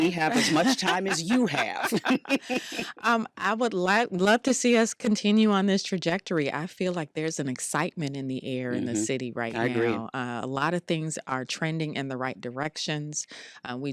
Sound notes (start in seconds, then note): 2.8 laughs; 8.7 mmhmms